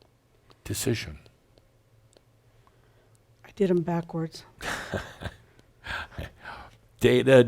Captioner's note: Adamus chuckles